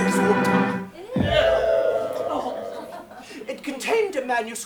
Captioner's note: everyone groans